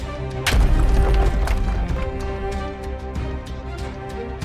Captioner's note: boom